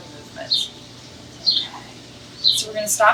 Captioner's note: bird chirps